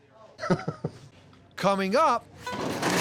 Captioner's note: chuckling